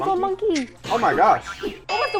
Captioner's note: spring boinging